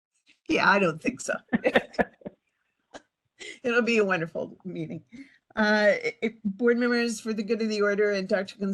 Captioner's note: laughing